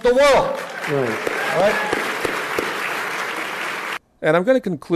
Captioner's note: applause